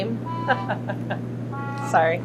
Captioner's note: laughs